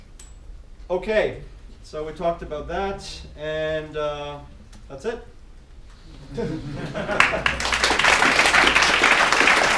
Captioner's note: people clapping